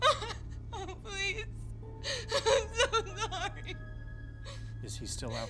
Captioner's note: crying; crying